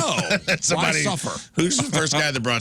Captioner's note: laughter